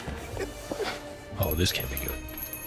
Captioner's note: doorbell jingles